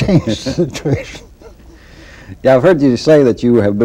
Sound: laughter

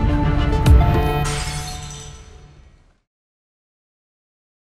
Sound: music intensifies; glass shatters

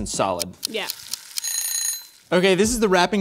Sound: timer Ringing

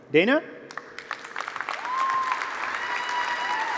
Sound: applause

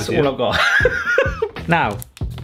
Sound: laughs

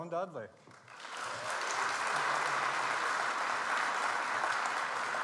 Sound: audience applauds

